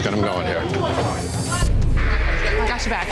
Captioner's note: chatter